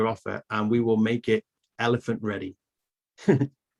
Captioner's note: chuckles